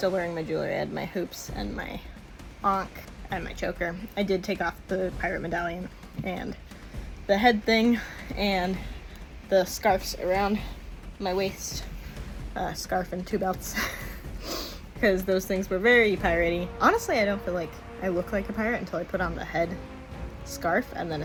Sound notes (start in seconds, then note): 13.7 laugh